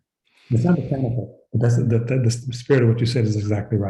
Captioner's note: speaking softly